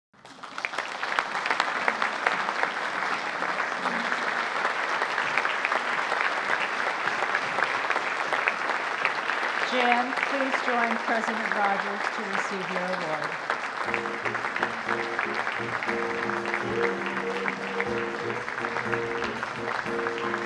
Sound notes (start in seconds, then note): 0.2 audience applauding; 14.6 audience applauding; 17.8 jazzy music